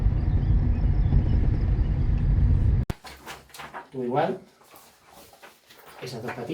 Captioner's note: automobile motor